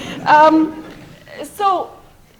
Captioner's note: laughter